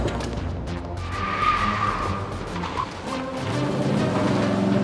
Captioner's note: gun thudding; tires screeching; engine revving